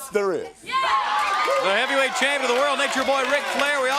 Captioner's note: crowd cheering